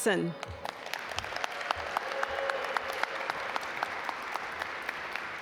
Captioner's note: audience applaud